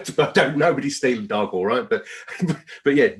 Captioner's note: laughs